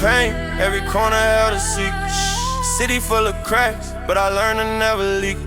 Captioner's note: shhh